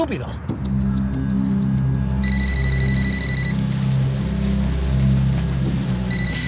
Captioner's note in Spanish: Suena celular